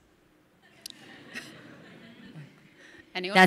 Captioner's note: audience laughing